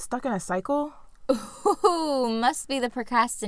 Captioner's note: laughter